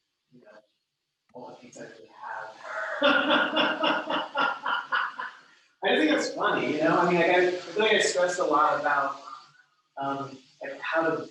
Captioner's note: laughs